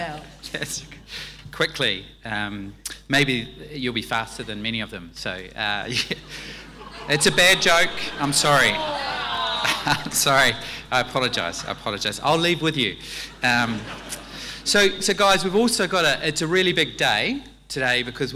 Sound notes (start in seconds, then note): 5.9 laughing and exclaiming; 13.2 laughing